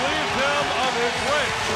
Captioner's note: crowd cheering